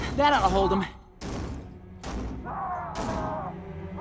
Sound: thudding, grunting

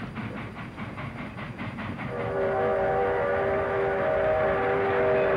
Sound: train whistle blowing

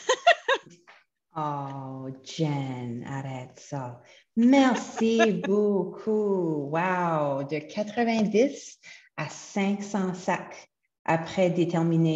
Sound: French

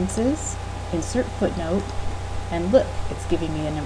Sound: click

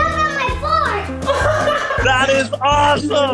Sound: laughter

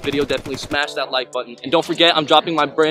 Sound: gun shot sound effect

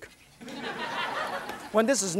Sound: audience laughs

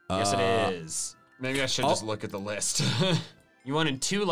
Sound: laughs

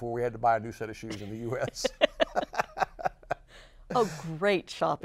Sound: laughs

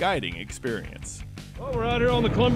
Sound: boat engine running

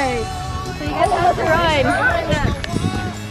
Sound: members grunting

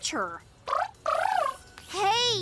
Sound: trilling

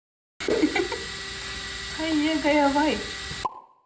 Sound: laughs

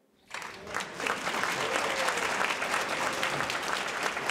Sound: audience applauds

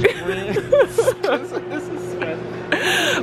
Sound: laughing

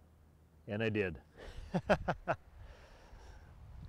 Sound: laughs

